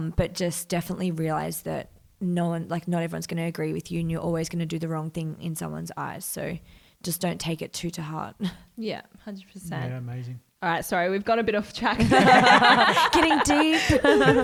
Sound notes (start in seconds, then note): 12.0 all laugh